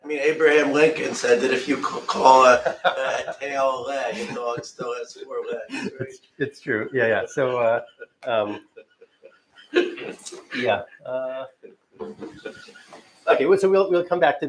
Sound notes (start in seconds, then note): 6.3 laughter